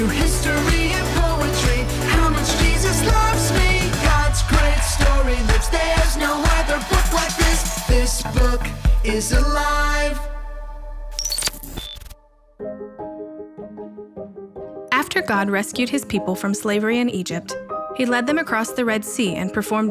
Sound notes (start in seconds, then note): 11.1 digital beeping; 12.2 gentle music